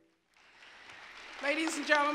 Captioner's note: applause